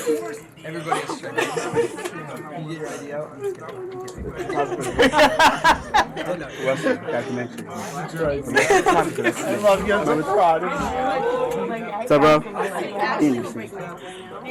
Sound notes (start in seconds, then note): 4.2 laughing